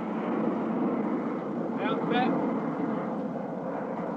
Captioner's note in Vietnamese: Tiếng nói chuyện